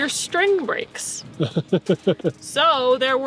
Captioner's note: laughing